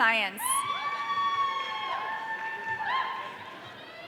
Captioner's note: audience cheering